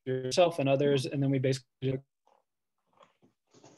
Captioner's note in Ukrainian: звук обривається